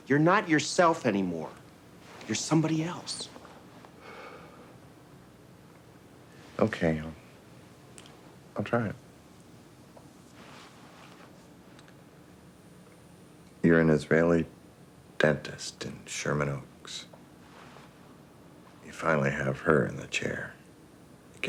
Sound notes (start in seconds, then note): 4.0 Richard exhaling